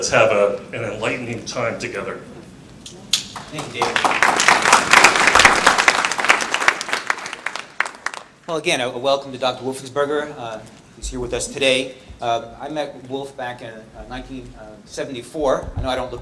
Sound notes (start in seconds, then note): 3.2 applause